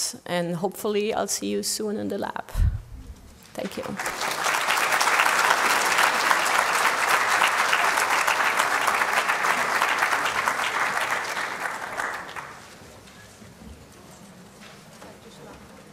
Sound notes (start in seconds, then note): 3.6 applause